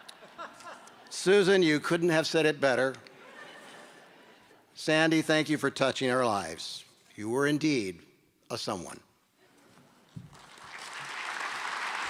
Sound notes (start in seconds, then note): 3.1 laughter